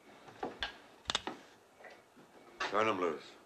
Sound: gun cocks

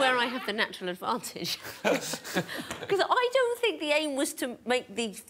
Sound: chuckles

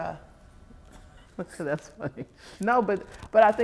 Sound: chuckles

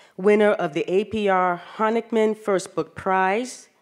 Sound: none

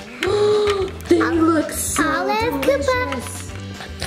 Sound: gasps

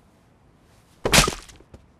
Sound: loud crack

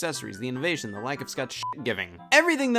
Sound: beep

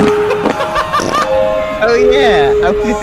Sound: carousel music, farts & screaming play; laughs

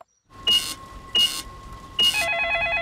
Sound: dialing; cash register beeping; cellphone ringing; beeps

